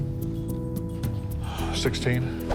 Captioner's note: exhales